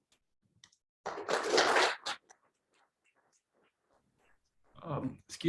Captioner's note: audience clapping